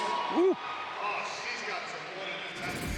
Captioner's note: crowd cheering